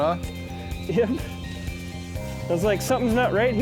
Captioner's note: laughs